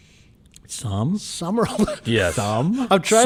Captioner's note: laughs